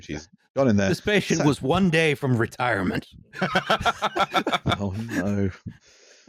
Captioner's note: explosion of laughter